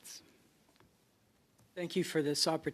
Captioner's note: speaking French